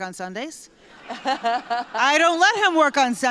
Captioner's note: laughter